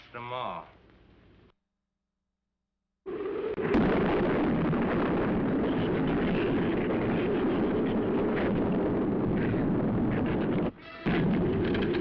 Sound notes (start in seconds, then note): 3.4 thunder